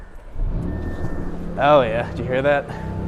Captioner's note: engine revving